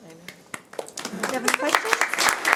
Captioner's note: audience applauding